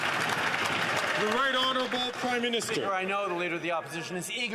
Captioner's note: some Applause